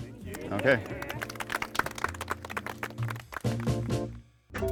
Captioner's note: applause